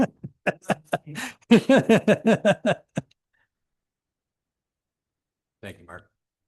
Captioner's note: chuckling